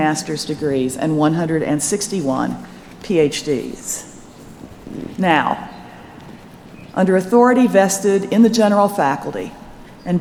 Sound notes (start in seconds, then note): none